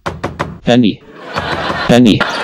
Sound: knock knock knock; basic laugh track

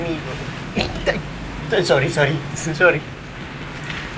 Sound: scoffs

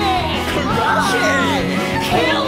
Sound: yelling

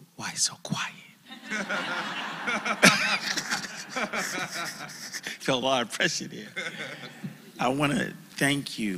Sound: laugh

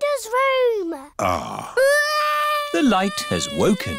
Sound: crying

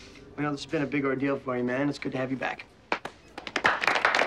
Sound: applause

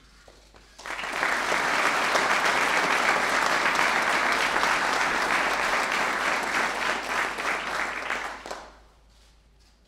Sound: applause

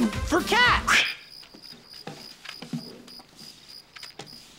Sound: crickets

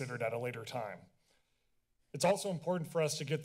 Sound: silence

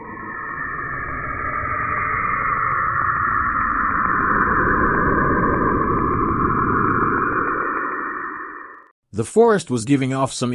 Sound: sound effect

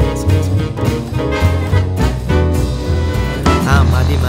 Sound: explaining in a faint voice

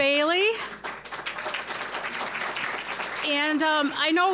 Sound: applause

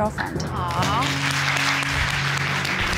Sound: audience exclaiming

